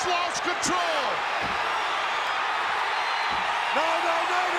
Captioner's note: crowd cheering